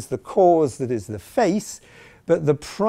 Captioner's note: none